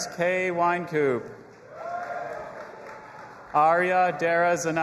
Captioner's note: audience applauding and cheering